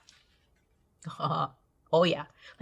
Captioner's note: chuckles